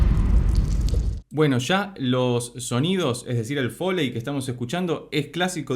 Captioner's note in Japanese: 銃声